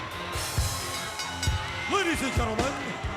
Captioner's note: ring bell dinging